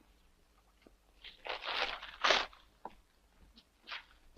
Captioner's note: paper rustles